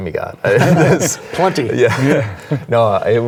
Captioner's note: group laughing